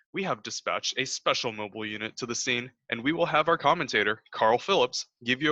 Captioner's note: none